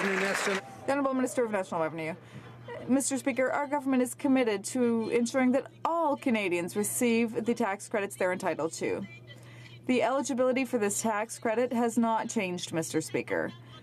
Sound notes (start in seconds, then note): 0.0 some Applause